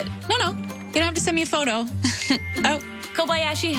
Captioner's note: SFX phone ding